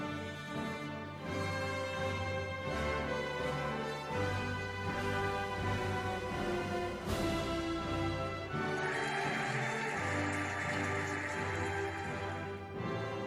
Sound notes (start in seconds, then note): 0.3 cheerful music; 8.4 cheering and applauding